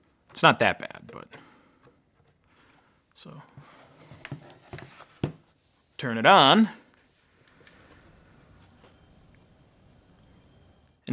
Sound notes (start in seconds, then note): 4.1 hard drive thumping; 7.5 hard drive whirring